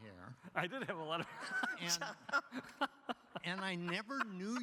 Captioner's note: laughs